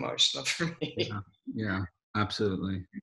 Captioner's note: laughs